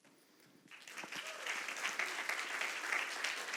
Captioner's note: applause